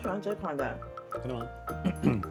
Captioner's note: clearing throat?